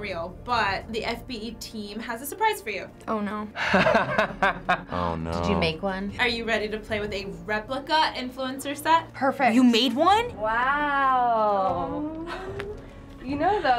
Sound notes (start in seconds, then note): 3.6 laughs